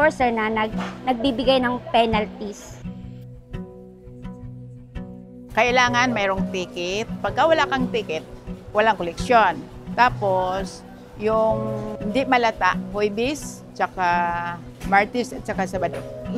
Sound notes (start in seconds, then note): none